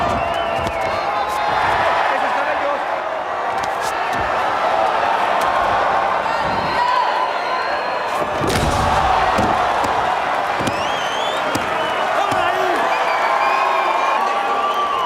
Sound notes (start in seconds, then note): 5.3 crowd chanting; 14.7 applause